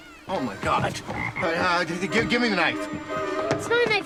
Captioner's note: stammering